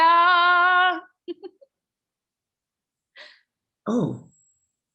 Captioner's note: giggles